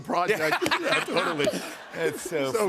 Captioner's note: laughter